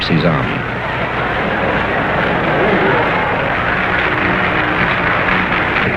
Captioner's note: crowd cheering and applauding